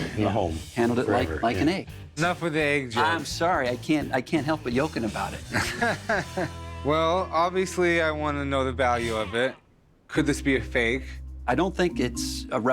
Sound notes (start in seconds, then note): 5.5 laughs